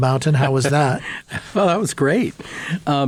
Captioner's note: laughing